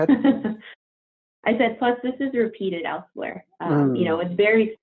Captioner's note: laughs